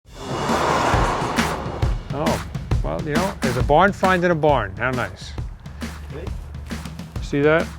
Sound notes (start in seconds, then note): 0.7 door opening